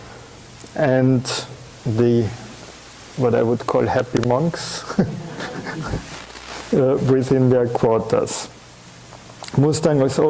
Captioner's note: chuckling